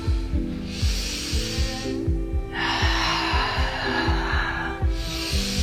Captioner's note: exhaling; inhaling